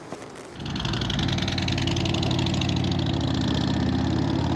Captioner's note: engine roaring